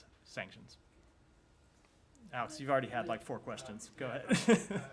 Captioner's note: laughter